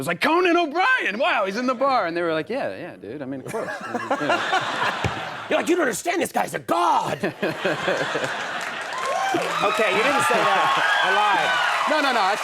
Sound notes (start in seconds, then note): 3.5 audience laughs; 7.5 audience cheers